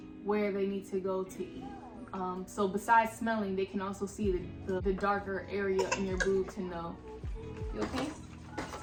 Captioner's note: coughed* --you okay ?